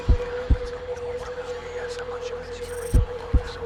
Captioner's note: eerie whispering